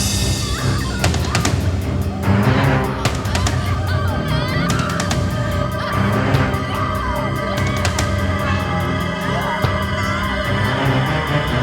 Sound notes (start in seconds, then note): 0.8 Madeleine screams